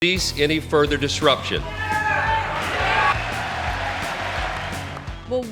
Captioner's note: yelling